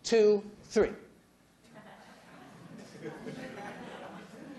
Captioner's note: laughter